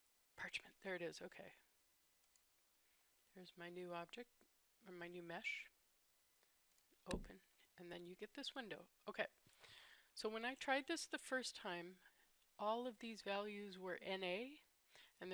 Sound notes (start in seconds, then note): 6.7 click